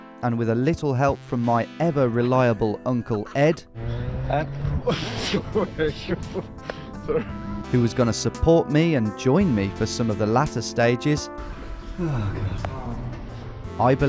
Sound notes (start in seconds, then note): 6.5 laughing